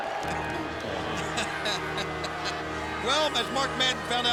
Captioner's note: laughs